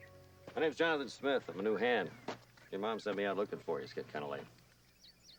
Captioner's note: birds chirping